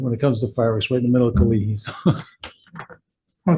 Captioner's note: laughs